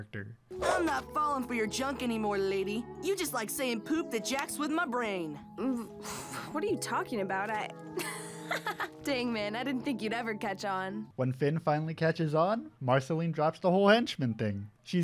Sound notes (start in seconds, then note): 7.9 laughs